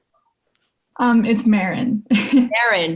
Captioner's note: chuckles